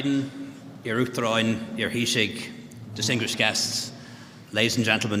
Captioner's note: speaking Gaelic